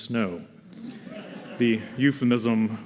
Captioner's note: laughter